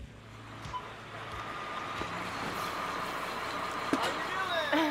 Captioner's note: truck rumbling